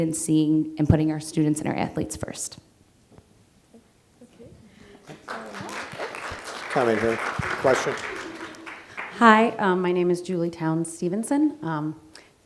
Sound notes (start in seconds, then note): 5.0 applause